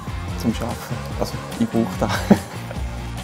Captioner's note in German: Lacht